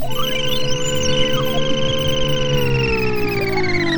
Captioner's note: device reeling